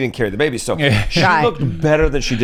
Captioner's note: laughs